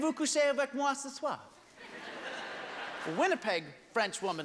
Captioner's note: laughter